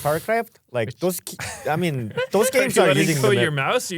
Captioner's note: laughs